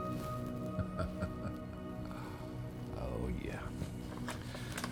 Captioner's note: Jim laughs